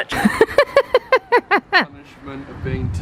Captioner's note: laughing